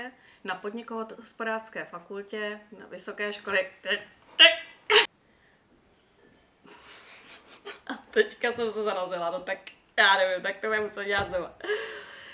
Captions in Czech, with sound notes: na Podniko-do-hospodářské fakultě, Vysoké školy, tak teď ted!!!! (smích)...teďka jsem se zarazila. No tak já nevím, tak to budeme muset dělat znova.